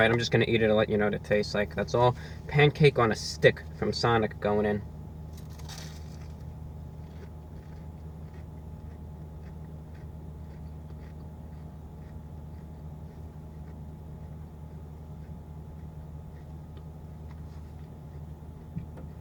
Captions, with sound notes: I'm just going to eat it and let you know what it tastes like that's all, pancake on a stick from Sonic going in [Chewing noises]